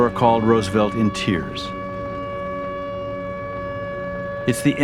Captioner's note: sirens Wailing